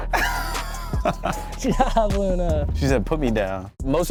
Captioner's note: laughing